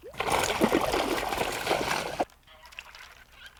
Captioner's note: splash